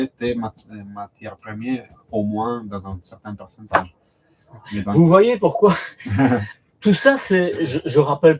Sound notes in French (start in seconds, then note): 6.0 rires